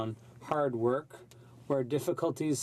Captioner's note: speaking French